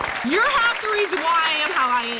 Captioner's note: applause